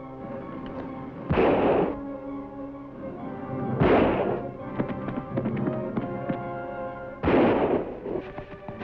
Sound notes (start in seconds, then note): 1.2 guns banging